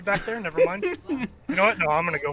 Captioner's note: laughter